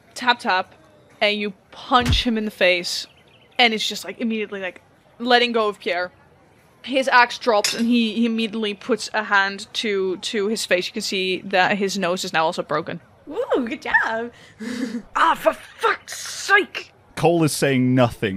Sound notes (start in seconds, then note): 0.2 tap tap; 2.0 thud; 7.5 metal clinks